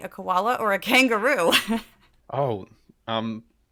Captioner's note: laugh